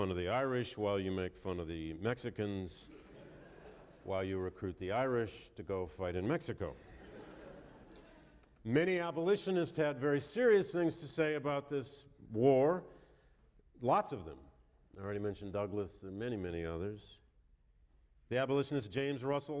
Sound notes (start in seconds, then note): 6.7 laughter